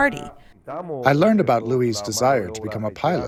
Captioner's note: through translator